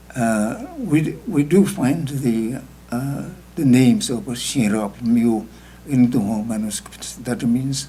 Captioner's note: speaking tibetan